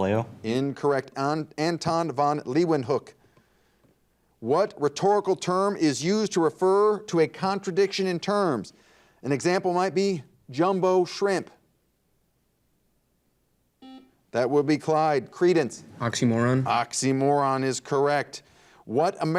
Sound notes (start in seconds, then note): 13.8 buzzer dings